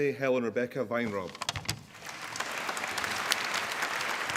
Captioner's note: applause